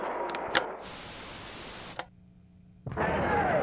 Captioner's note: television clicks; static crackling; crowd cheering